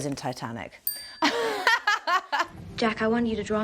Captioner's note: bell ringing; Kate laughing